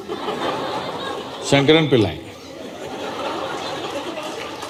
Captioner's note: laughter; laughter/Applause